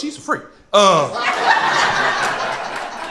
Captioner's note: crowd laughter